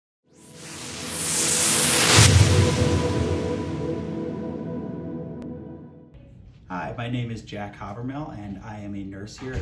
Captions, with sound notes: (wooshing) - Hi, my name is Jack Hawvermale and I am a nurse here